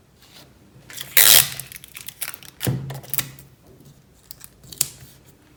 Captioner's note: tape unrolling sound